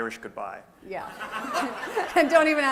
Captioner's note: laughter